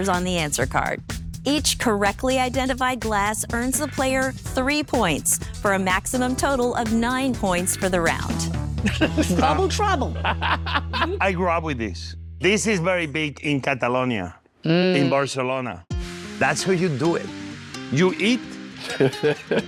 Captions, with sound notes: Each correctly identified glass earns the player three points for a maximum total of nine points for the round. - Bubble Trouble. - I grew up with this. This is very big in Catalonia, in Barcelona. That's how you do it. You eat-- [laughing] - See? - I can answer this on appearance.